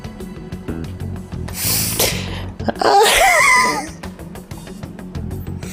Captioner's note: sharp intake